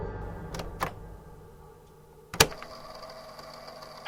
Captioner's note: click